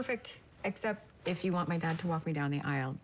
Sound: none

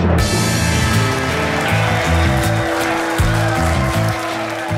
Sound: crowd claps and cheers

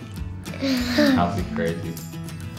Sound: both laughs

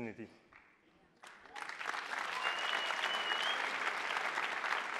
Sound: attendees applauding

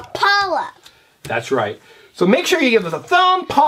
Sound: voiceover

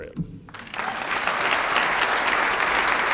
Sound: applause

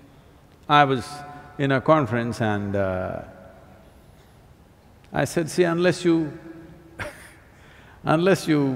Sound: laughs

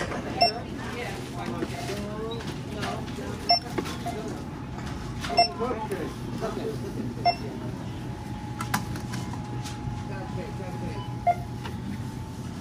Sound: beeping sound

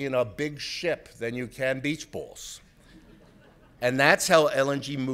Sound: audience laughs

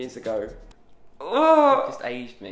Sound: groans

